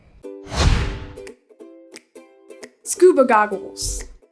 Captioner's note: screen whooshes